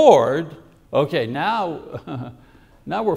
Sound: laughs

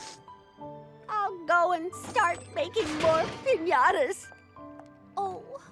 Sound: sniffles; clangs

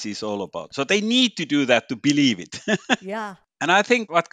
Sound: laughs

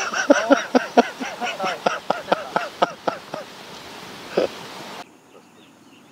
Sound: laughs

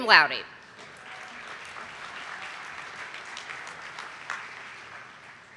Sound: audience applauding

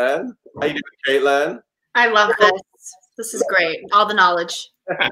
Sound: laughs

